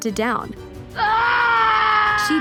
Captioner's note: screams